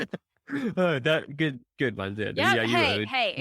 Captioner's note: chuckling